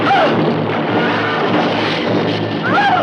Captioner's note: Kathy screams